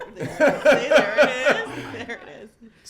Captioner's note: laughs